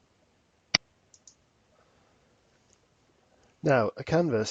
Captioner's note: mouse clicking